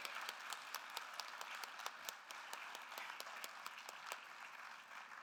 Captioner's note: attendees applauding